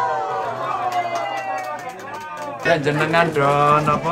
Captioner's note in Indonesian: tepuk tangan